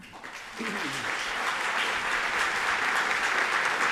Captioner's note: audience applauding